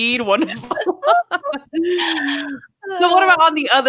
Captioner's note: laughing